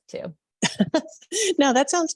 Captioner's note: chuckles